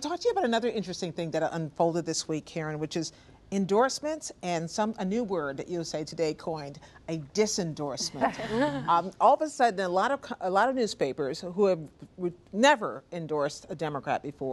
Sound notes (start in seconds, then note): 8.0 laughter